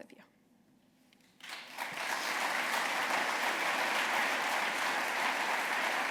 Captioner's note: applause